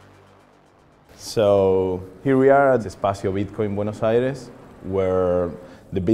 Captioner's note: man's voice